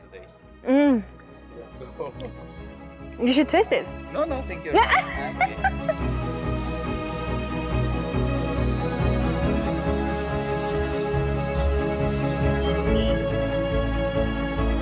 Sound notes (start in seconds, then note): 4.7 laughs; 7.6 inspiring music